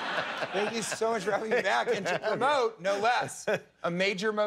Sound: laughter

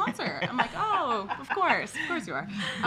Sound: laughs

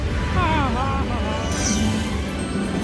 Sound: Kermit laughing

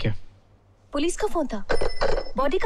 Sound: receiver hang up

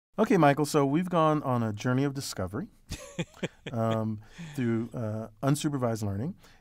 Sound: laugh

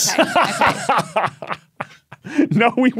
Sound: laughs uproariously

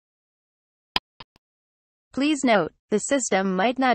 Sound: click sound

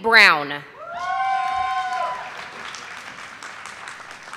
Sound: audience applauding

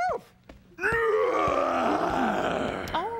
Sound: Theo yawning

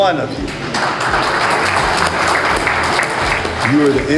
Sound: applause

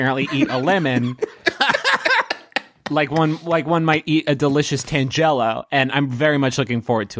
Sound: laughter

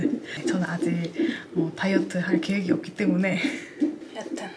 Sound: laughing

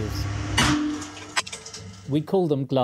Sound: glass tube bursts

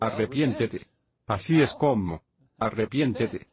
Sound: chuckling

